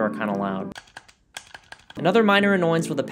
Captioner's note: loud Clicking Noises